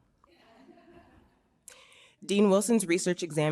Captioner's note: audience chuckles